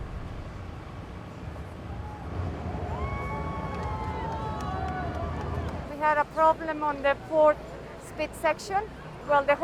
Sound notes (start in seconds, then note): 3.4 people cheering